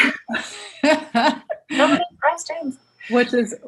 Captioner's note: laughing